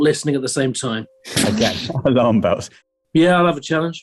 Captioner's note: sniggering